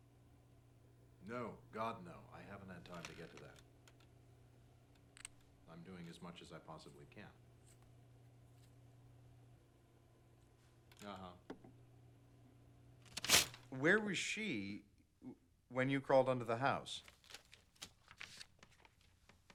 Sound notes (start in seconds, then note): none